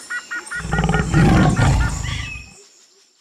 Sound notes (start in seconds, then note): 0.0 animals sounds; 0.6 lion roars